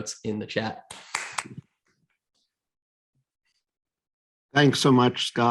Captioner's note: clapping